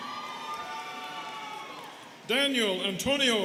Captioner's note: students cheering